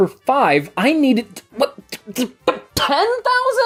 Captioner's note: stammers in shock and horror